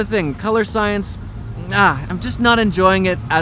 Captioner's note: scoffs